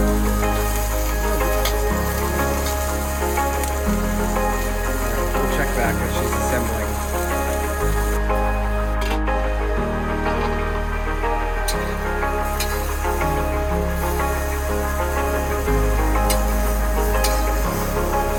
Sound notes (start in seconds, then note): 0.2 pan sizzles; 0.2 soft music; 7.9 pan sizzles; 7.9 soft music